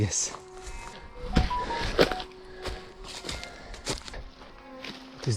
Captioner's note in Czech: telefonické oznámení